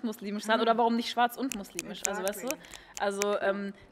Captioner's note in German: Schnipsen